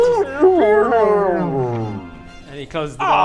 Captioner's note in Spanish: wrrooorooorrrrrr